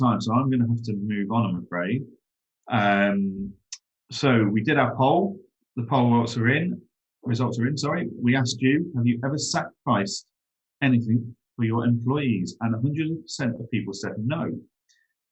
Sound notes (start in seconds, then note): none